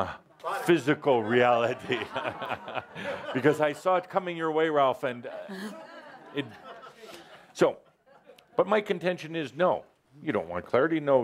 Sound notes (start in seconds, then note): 5.4 Adamus chuckles